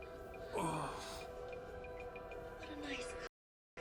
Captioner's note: man grunts